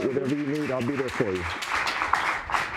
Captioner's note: audience applauding